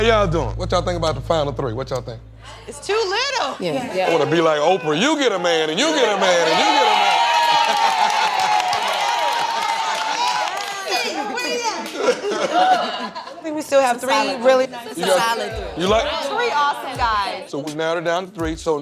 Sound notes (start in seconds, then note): 5.6 cheering, laughter; 11.4 laughter